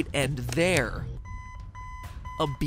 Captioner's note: beeping